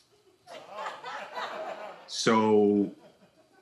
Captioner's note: audience laughing